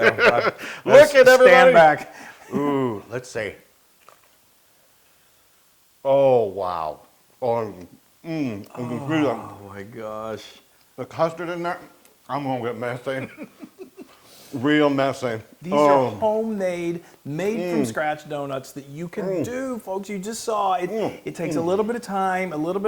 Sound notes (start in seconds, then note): 0.0 laugh; 13.0 laugh